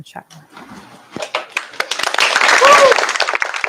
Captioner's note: applause